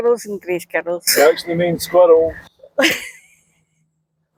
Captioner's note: laughter